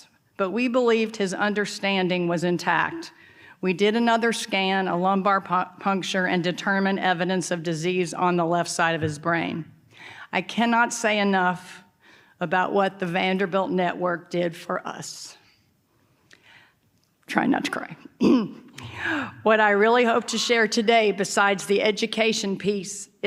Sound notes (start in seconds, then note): 18.2 clears throat